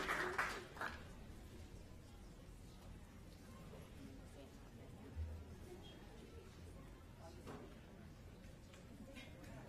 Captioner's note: applause